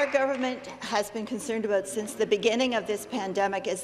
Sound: some Applause

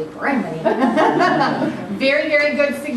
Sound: laughter

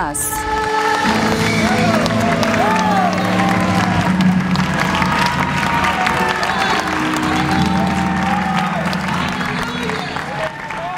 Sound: applause

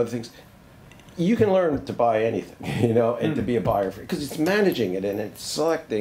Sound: laughs

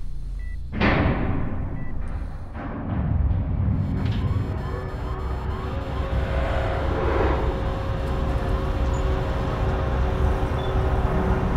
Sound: heavy doors slowly open

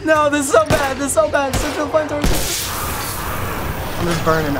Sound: spores burst; gunfire

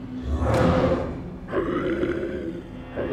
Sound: growls

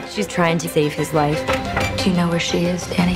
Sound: knocking

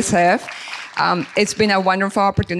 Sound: audience clapping

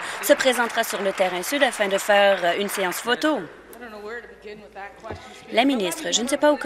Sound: applause

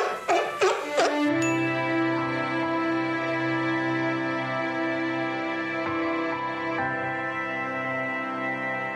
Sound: the Seal is Barking

